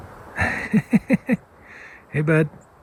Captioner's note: laughing